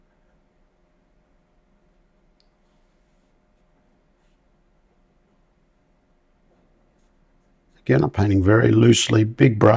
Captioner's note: silence